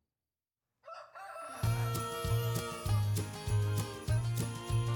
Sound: rooster crows

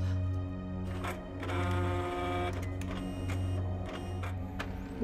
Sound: scanner whirring; suspenseful music

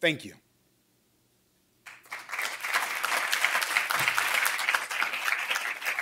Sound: applause

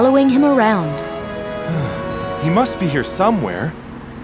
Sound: sighs

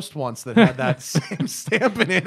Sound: laughter

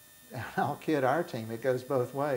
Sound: laughing

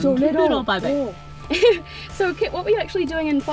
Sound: laughs

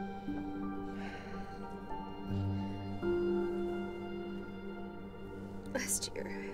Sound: somber music; Casey sighs

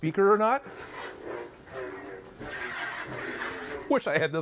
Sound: lightsaber sound

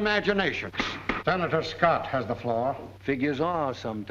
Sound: banging gavel

